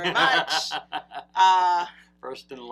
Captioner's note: laughs